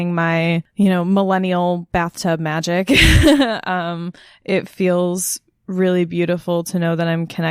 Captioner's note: laughs